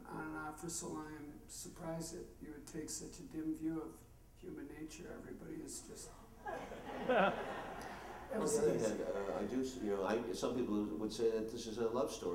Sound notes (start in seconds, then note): 6.4 laughter